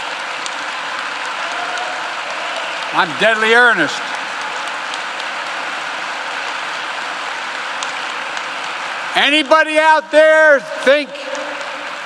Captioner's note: applause